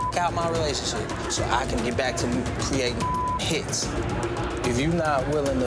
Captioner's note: beep; beep